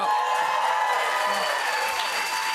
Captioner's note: cheers and applause